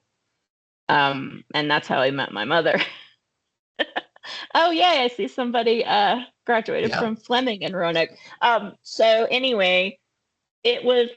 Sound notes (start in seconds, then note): 2.8 laughing